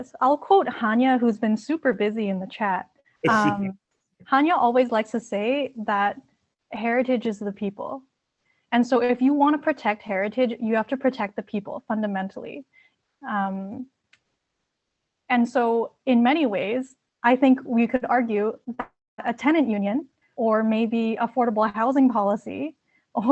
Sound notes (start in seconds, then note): 3.2 laughs